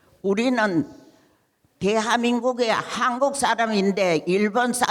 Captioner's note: speaking in foreign language